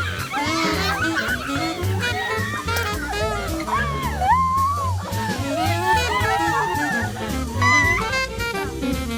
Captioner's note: joyful scream